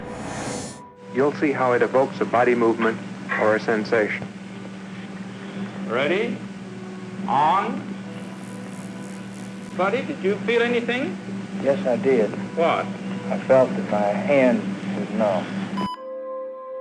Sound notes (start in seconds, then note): 0.1 static; 8.0 electric sizzle